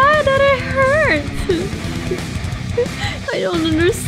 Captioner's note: crying in the corner